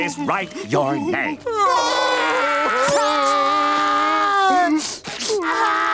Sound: crying

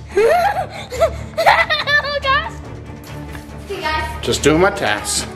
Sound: laughing loudly

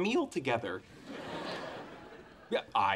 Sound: audience laughing

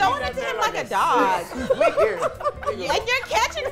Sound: laughs

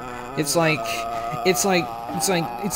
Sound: still going uhhhhhh

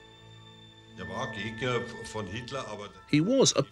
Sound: speaks foreign language

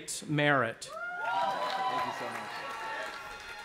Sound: cheering

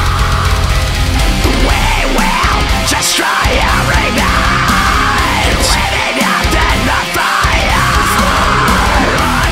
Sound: fire

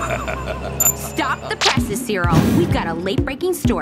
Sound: Cyril laughing

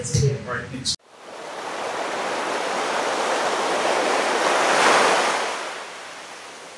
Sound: waves crashing on the shore

